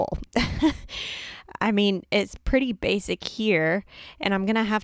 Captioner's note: chuckles nervously